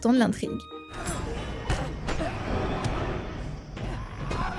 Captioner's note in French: bruits de combat